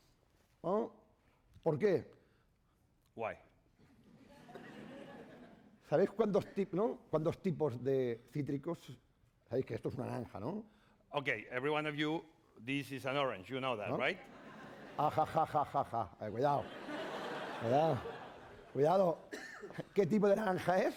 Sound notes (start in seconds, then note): 1.3 speaking spanish; 3.9 laughter; 7.1 speaking spanish; 17.0 laughs; 18.7 speaking spanish